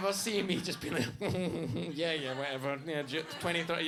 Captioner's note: chuckling